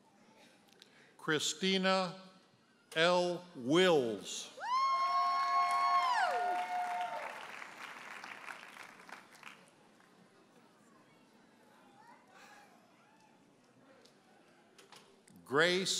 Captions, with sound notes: Christina L. Wills. (audience cheers and applauds)